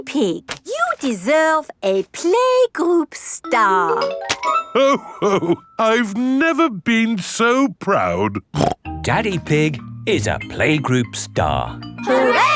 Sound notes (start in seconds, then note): 8.5 snorts